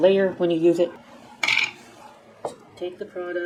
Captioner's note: clank